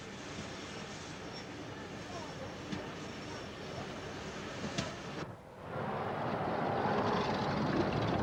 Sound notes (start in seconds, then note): 3.4 train passes